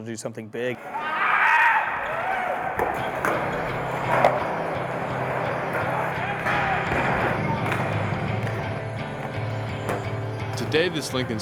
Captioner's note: yelling